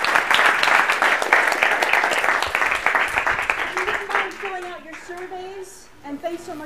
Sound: applause

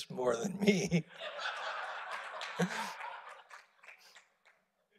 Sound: audience laughing

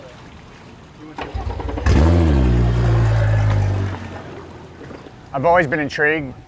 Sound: boat engine grumbling

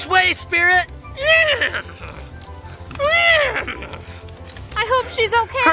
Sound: horse neighs

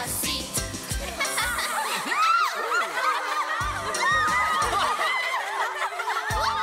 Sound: everyone laughs

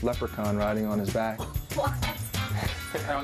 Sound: woman laughing

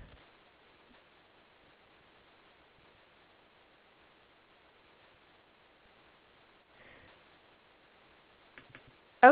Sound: silence

